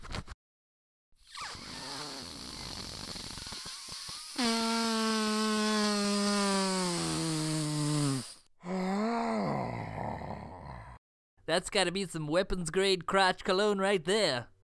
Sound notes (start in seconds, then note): 1.6 intense sniffing; 8.6 pleased sigh